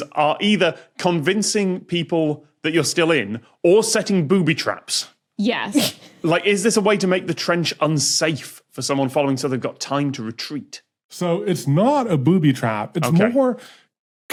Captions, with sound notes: are either convincing people that you're still in or setting booby traps. Yes. (snickers) Is this a way to make the trench unsafe for someone following, so they've got time to retreat? So it's not a booby trap. Okay. It's more...